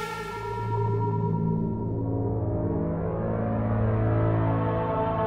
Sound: signal reverberating

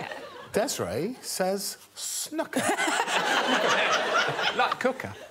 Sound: all laughing

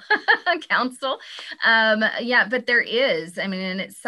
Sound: laughing

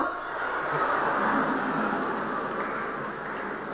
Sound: laughter

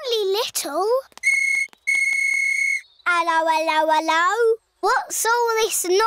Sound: blows whistle

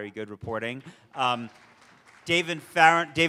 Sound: audience applauds

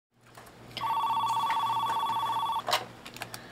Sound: phone ringing

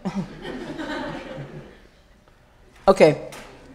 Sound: laughter

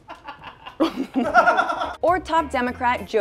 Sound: off-camera laughter

